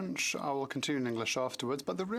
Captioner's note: speaking French